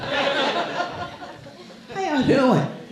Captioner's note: laughing